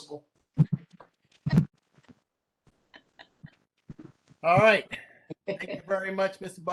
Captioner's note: laughter